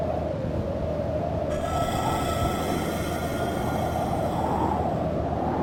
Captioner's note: beast shrieks